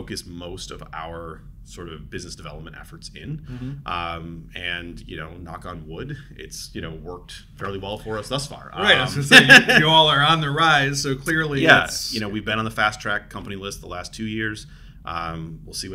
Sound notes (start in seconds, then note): 8.8 laughs